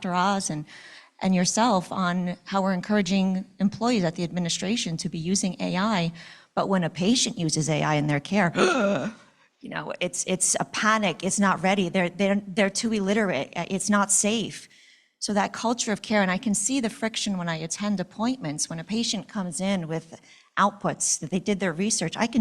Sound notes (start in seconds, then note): 8.5 gasps dramatically